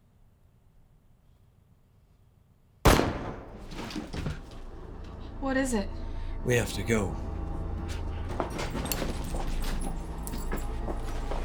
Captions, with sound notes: (gun fires) - What is it? - We have to go. (suspenseful music)